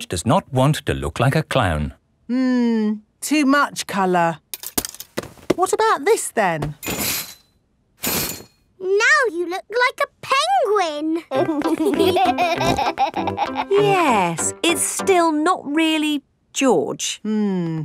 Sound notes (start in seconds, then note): 11.2 laughing